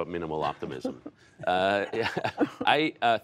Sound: laughter

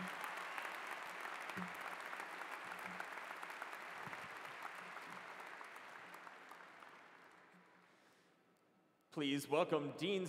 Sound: cheers and applause

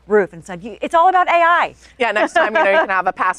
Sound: laughing

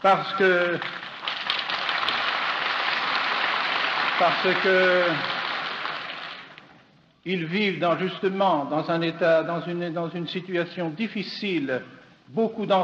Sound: applause

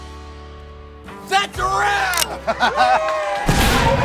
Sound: cheering; applause

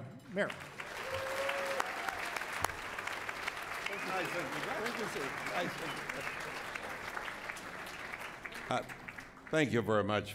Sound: cheering and Applause

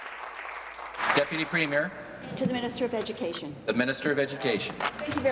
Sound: applause

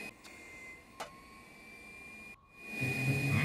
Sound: vacuuming

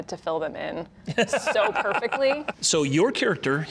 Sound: laughing

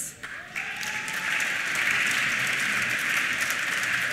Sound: applause

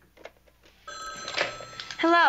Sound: phone rings

